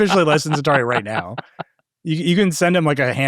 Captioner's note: laughing